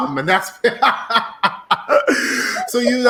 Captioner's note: laughing